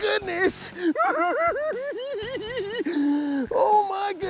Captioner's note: giggles